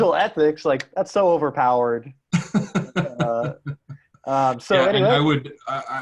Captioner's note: chuckling